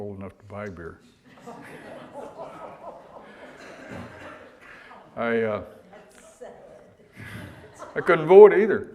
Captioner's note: audience laughter